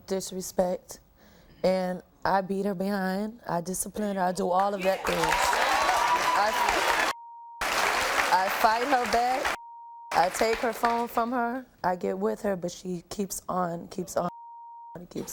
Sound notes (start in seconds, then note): 5.4 audience applauds; 7.3 beep; 14.4 beep